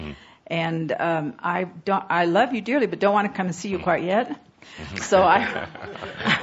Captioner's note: chuckles